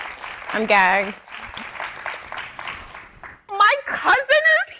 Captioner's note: audience applauding